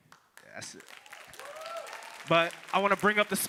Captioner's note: audience cheering and applauding